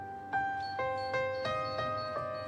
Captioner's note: pensive music; keypad beeps